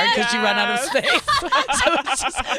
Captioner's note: laughing